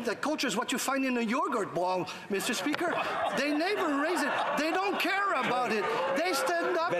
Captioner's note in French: voix de l'interprète